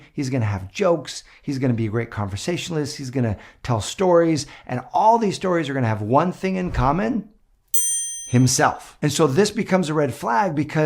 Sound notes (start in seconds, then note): 7.7 bell rings